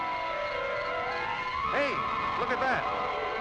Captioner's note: fire hissing